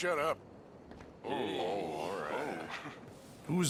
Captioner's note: the miners mumble between each other